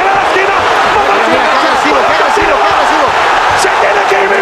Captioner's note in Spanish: Gritos